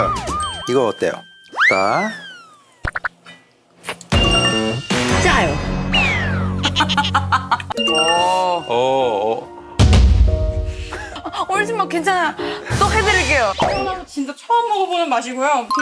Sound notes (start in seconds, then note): 3.8 slurping